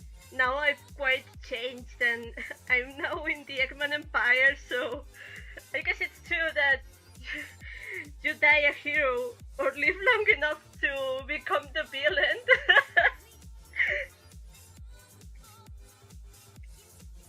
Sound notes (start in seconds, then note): 7.3 chuckle; 12.0 laughs